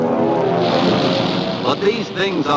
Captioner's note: guns firing